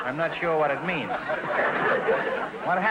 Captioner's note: audience laughter